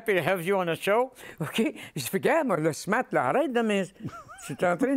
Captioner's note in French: rires